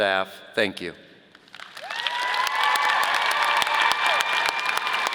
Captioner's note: audience applauding